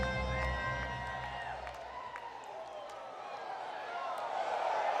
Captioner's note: crowd wooing